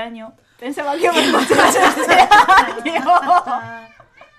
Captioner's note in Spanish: risas